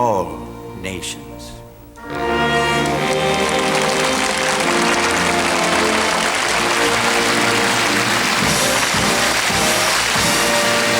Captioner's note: soft music; audience applauding